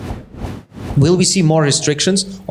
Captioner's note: whooshing